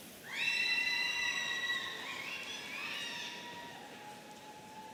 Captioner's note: audience cheering